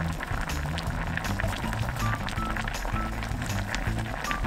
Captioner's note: boiling sound